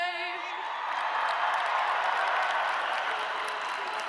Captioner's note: audience cheering